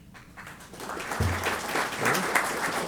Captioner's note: applause